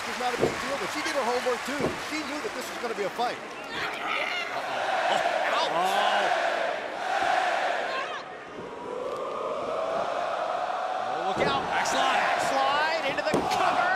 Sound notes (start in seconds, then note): 7.0 crowd cheering